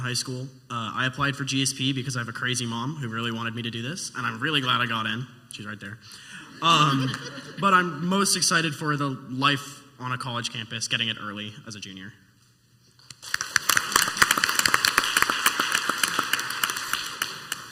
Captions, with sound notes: I'm from John Harden High School. Uh, I applied for GSP because I have a crazy mom who really wanted me to do this and I'm really glad I got in. She's right there. Um, (laughing) But I'm most excited for the life on a college campus getting it early as a junior. (clapping)